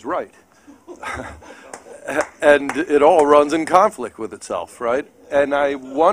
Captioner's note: laughter